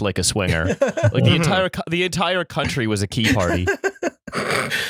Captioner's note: laughter